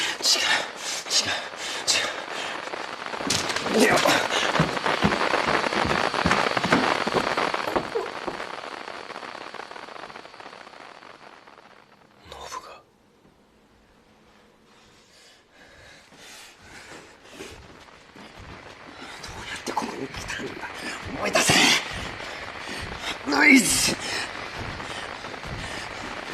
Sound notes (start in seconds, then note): 11.1 static gets quieter; 15.8 hyperventilates; 18.1 static gets louder; 23.9 pants heavily